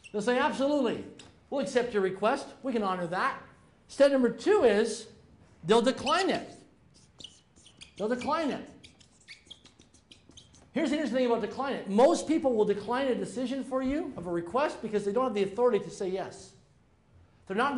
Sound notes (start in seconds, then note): 0.0 marker squeaking; 8.8 marker squeaking